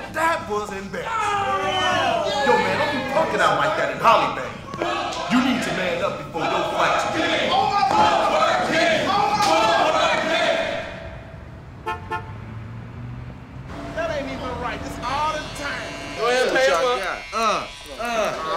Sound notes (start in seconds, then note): 11.5 horn honks